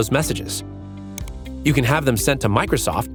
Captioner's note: mouse clicking